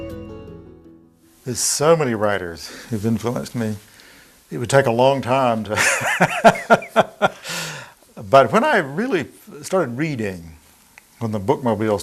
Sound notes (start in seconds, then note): 5.8 laughing